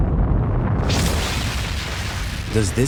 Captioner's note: explosion